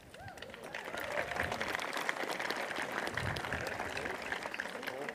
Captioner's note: applause